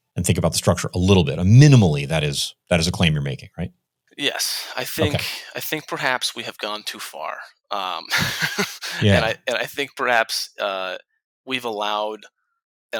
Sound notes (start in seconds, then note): 8.0 laughs